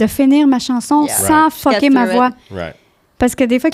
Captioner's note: in french